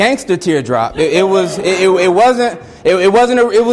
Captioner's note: students laugh